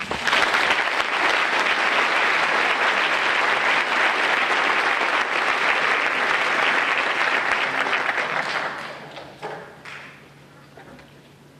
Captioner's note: applause